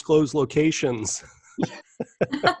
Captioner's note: chuckle